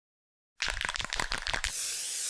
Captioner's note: agitator ball rattling; paint can spritzing